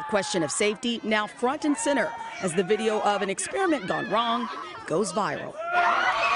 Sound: screaming

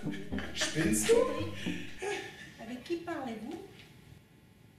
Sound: speaking French

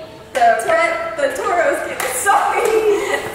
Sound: giggling; speaker 3 laughing

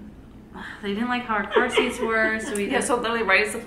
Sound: sigh

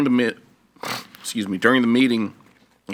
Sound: sniffs

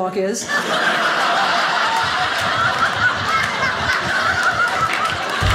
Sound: audience laughing

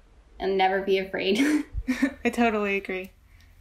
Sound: laughs

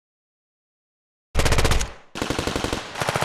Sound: gun shots

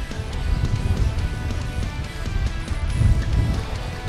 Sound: wind blowing

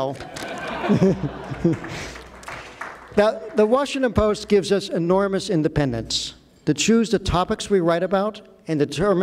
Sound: applause

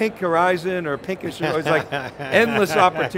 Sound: laughs

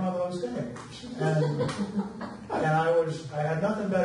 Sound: audience laughs

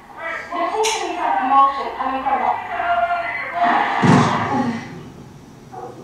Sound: television news reporter speaking followed by an explosion

